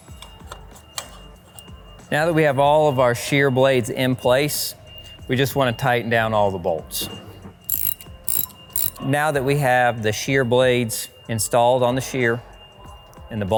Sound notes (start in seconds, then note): 7.6 ratchet clicking